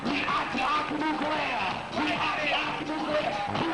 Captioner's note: chanting